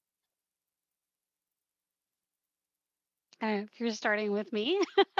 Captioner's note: laugh